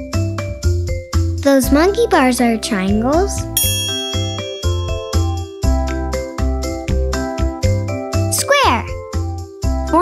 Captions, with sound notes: Those monkey bars are triangles. (bell dings) Square!